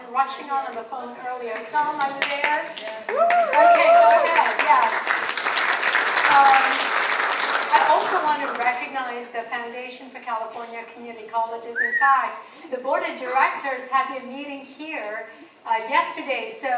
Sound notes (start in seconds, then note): 3.0 audience cheers; 5.3 audience applauds